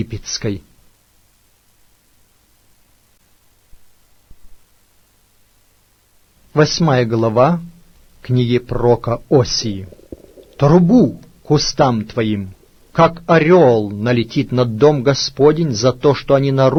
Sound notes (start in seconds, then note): 3.8 swoops